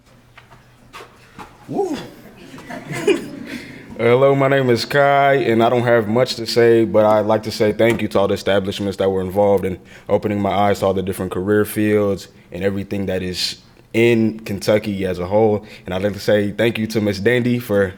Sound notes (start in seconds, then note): 1.3 crowd laughing